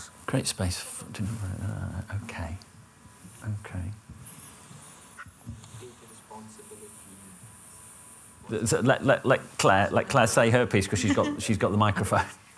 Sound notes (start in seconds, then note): 1.1 mumbles to self; 5.4 background talk